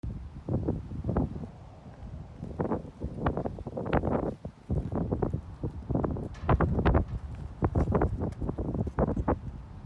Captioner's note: ambient wind; plastic being dusted off